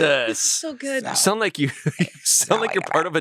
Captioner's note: laughs